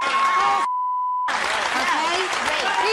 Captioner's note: beeps